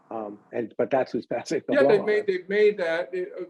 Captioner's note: chuckles